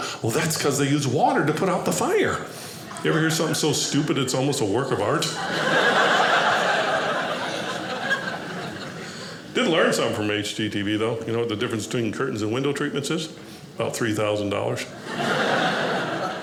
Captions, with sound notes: "Well that's because they use "water to put out the fire." You ever hear something so stupid it's almost a work of art? (audience laughing) Did learn something from HGTV though, you know what the difference between curtains and window treatments is? about $3,000. (audience laughing)